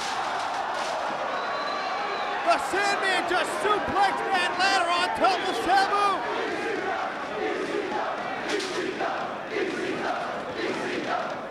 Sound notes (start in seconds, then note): 0.2 spectators exclaiming; 6.5 spectators chanting "ECW!"